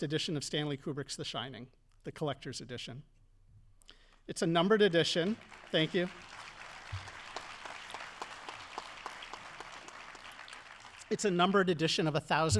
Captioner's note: audience applauding